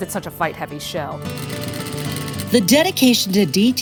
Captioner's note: sewing machine buzzes